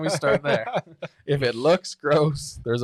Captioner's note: laughing